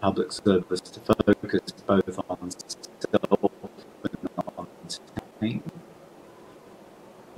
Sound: audio distorting

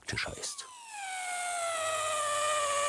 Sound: squeaky whirring

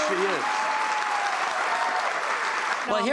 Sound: crowd cheering

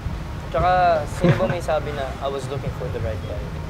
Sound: giggles

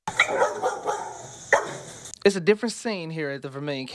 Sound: nat dog bark

